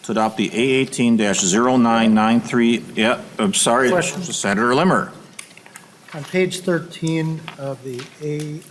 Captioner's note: chorus of ayes